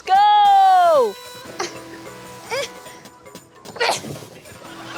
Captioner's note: grunts